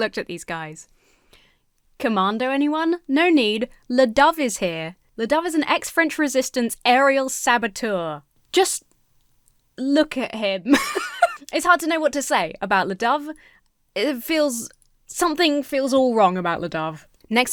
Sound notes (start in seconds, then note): 10.6 laughs